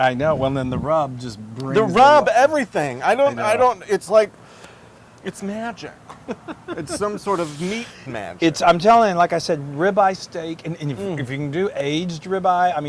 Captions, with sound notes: >> I know, well and the rub just brings. >> The rub, everything. it's like, it's magic. >> [LAUGH] >> It's some sort of magic. >> I'm telling you, like I said, ribeye steak and if you can do aged ribeye.